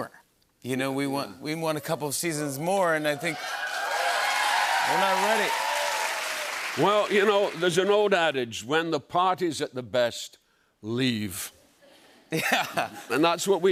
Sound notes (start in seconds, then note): 2.8 cheers and applause; 12.3 laughter